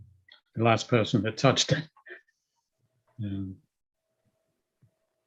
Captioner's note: laughing